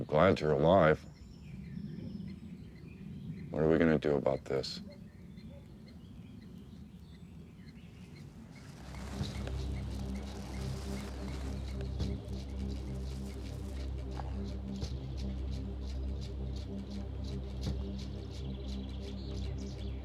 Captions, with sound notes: I'm glad you're alive. What are we gonna do about this? (bear chewing) (tense music)